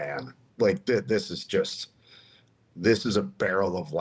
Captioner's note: laughs